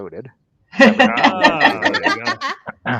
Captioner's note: all laughing